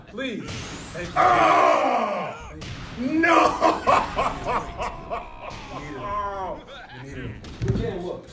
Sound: laugh

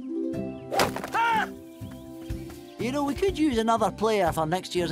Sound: whack; Glomgold screams

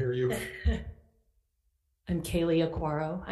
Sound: laughs

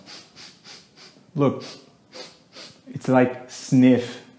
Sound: sniffing

